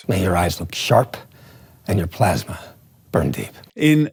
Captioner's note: movie dialogue plays